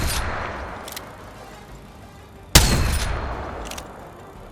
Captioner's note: sound of shooting